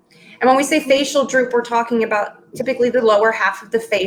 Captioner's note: speaking in Foreign Language